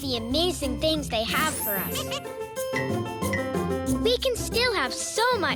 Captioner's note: tinkling